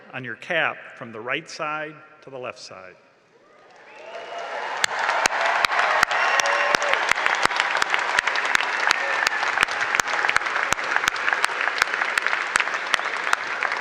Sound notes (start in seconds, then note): 1.8 applause and cheering